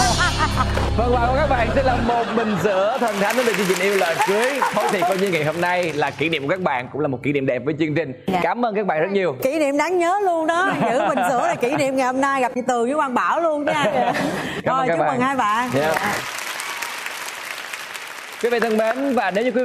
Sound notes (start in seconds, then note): 4.0 still laughing; 15.6 clapping sounds